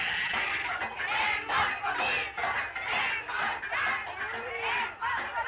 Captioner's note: chanting continues